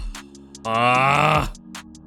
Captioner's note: groans